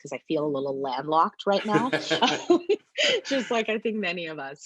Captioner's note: laughing